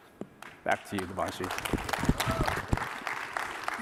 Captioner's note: applause